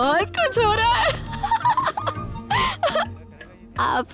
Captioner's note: Laughs